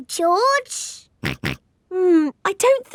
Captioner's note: snorts